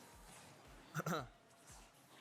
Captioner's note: coughs